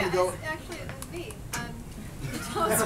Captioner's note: laughter